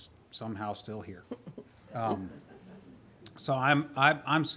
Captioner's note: crowd laughs